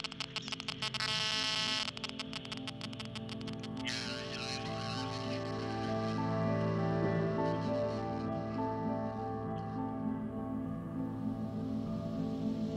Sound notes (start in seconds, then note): 0.0 static buzzing; 3.9 static distorts man's speech; 6.8 ominous instrumental music